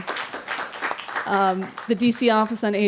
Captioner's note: applause